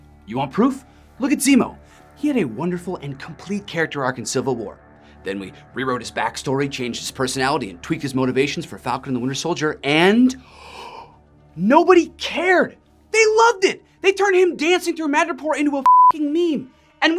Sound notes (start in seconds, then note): 10.4 gasps; 15.8 beep